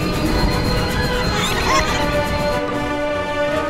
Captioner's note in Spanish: Vagones riéndose